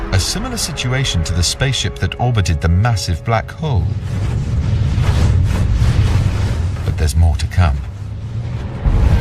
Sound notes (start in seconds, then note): 3.1 spaceship roaring; 7.7 dramatic music continues